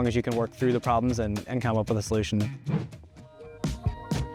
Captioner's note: spirited music; air whooshes